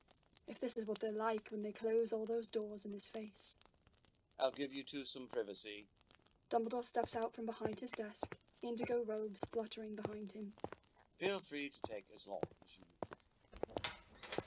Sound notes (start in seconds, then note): 6.5 footsteps fading